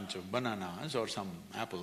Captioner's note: none